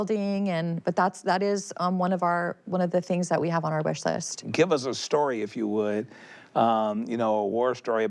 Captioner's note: none